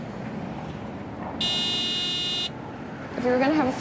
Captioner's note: honking cars